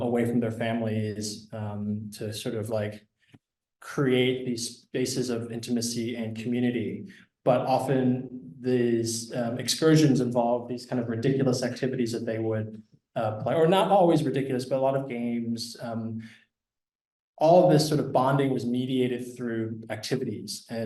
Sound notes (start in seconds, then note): none